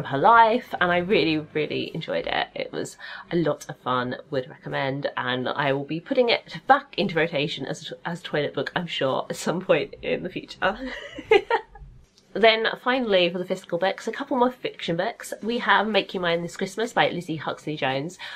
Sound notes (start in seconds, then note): 10.8 laughs